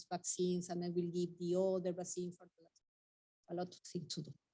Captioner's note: speaking faintly